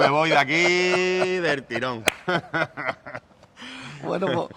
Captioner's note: laughs